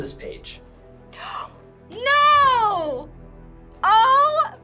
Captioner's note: gasps